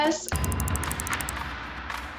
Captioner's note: snappy music; bell dings